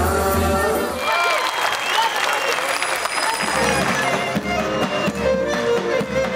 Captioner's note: clap